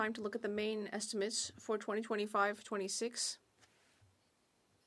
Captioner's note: speaking French